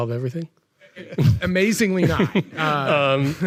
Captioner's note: all chuckling